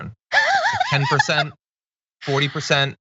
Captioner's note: laugh